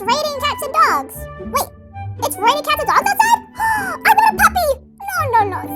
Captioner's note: gasps